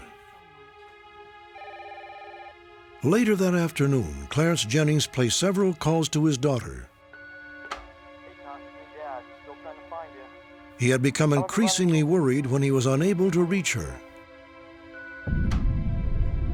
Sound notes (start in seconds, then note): 8.5 on phone